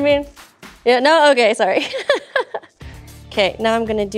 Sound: laughing

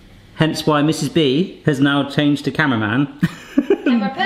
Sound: laughs

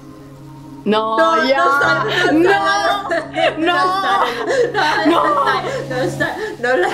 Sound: cries

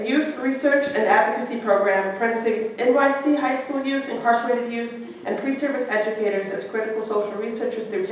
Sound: none

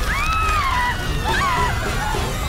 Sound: onlookers screaming

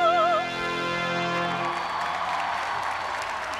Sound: applause

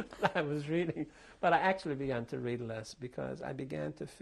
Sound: laughs

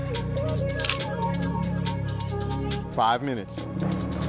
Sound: shutter snaps

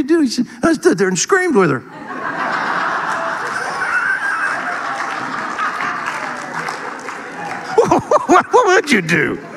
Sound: audience laughing

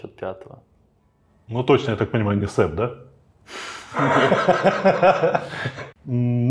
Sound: laughing

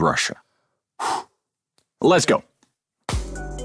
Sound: exhales sharply; title theme

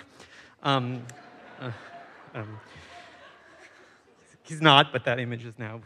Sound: audience chuckles

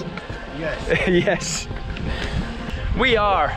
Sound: laughter

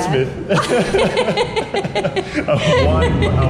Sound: laughing

